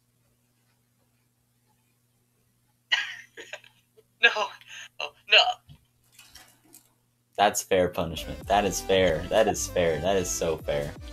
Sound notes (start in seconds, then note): 2.9 laughs